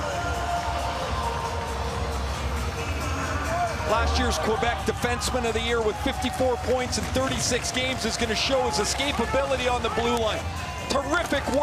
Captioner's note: cheering and Applause